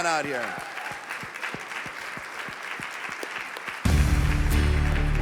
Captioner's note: audience clapping; triumphant rock music